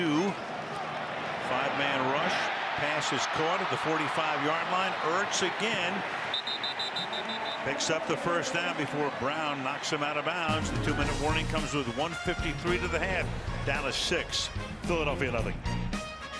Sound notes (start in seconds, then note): 6.3 whistle